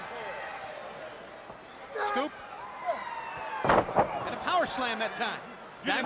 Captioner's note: crowd chatter